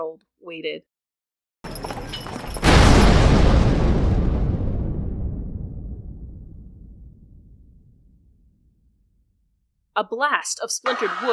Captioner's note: echoing carriage sounds and then a LOUD explosion and tumbling wood